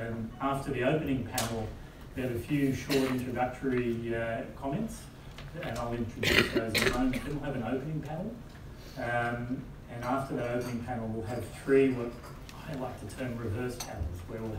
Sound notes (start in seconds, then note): 6.2 cough